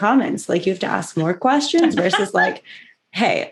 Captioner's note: laughter